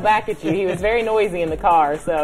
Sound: laughter

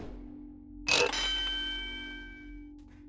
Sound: doorbell

